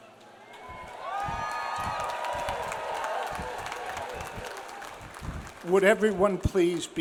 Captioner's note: audience cheers; audience applauds